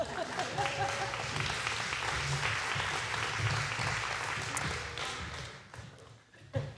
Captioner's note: applause